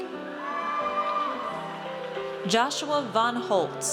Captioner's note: audience cheers